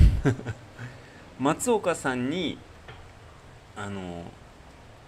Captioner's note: laughter